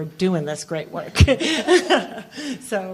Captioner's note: laughter